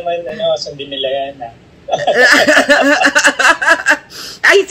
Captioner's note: laughter